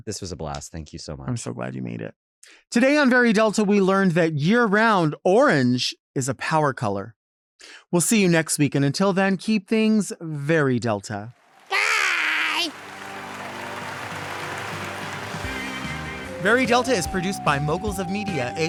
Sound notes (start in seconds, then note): 13.8 audience applauds